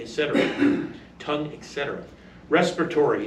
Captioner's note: male audience member coughs; stammers